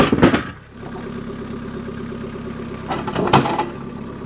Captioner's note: engine revving